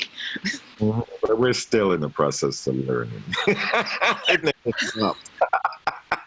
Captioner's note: laughing